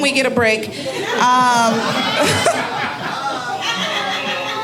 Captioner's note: audience laughing